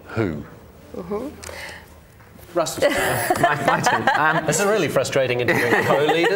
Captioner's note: laughter